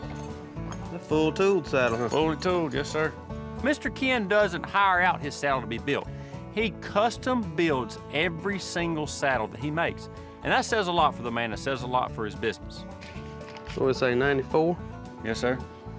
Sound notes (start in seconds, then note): none